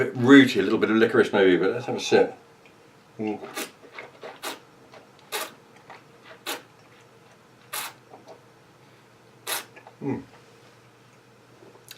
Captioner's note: slurping